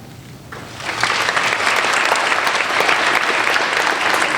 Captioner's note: applauding